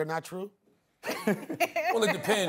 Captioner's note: laughter